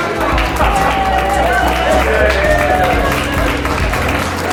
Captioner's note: cheering